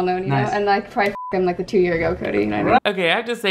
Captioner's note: beep